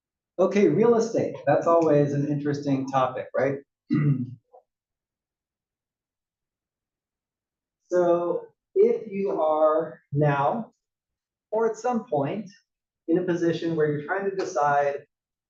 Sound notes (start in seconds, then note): 3.9 cough